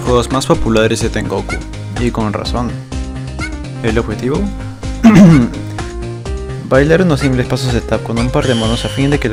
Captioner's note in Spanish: Ejem